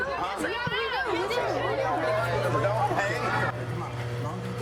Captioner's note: overlapping chatter